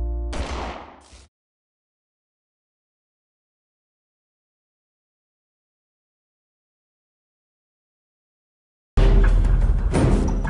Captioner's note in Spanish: Disparo